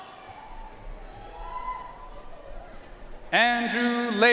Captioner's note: audience cheering and applauding